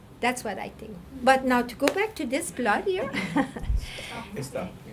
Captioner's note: laughing